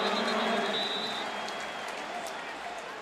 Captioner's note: announcer on pa